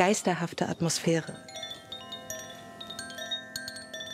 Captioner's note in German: Leises Klingen